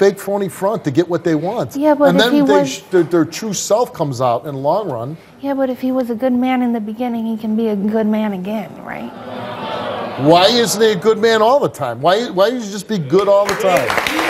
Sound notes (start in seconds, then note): 9.0 audience groans; 13.2 audience applauds